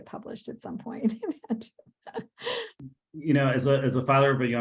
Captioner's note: chuckles